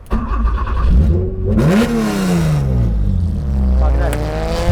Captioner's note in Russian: звук работающего двигателя